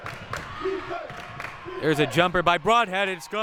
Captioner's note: clapping